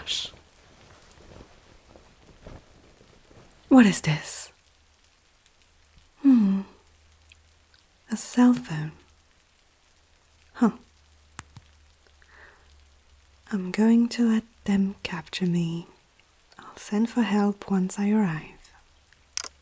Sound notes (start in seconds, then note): 4.8 fabric Rustle; 15.5 sigh